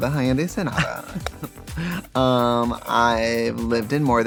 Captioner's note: Katya laughs